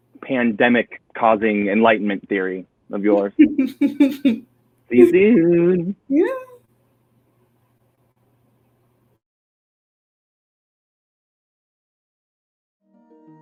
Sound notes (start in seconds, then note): 3.2 laughing